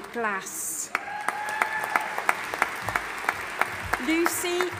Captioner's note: audience applauding and cheering